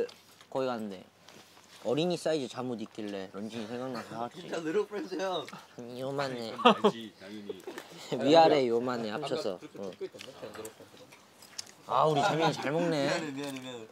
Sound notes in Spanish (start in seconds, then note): 9.8 Ñamñam